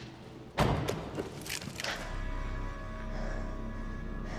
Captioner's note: breathing heavily